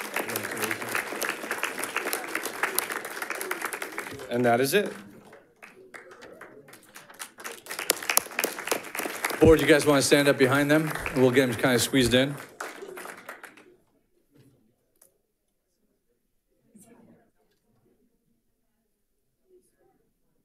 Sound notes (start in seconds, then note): 0.3 audience applauding; 8.4 audience applauding